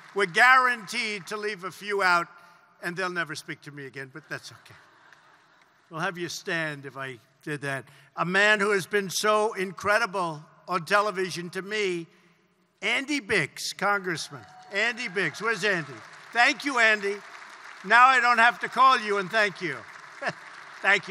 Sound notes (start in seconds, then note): 4.3 laughter; 19.8 laughs